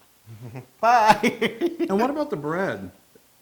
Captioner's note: laugh